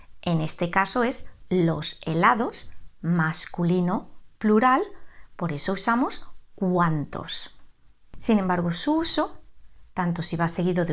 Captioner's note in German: auf Spanisch